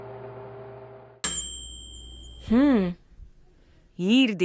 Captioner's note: oven bell